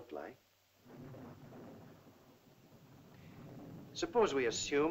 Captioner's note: thunder rumbles in distance